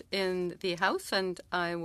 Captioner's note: speaking French